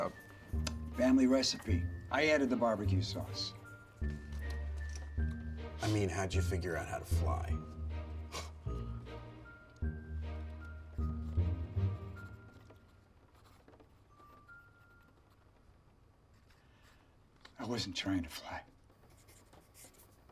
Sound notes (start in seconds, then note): 10.3 scribbles